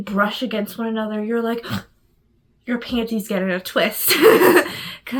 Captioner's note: gasps